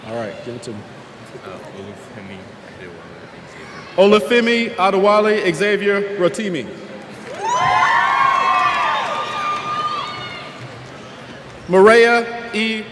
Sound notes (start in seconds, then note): 7.2 cheers